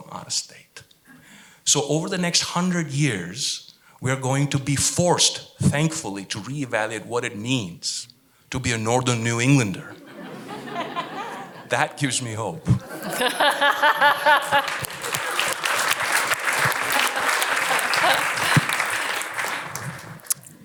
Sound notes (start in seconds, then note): 12.7 laughter; 14.2 applause